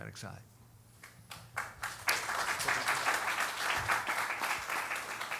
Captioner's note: applause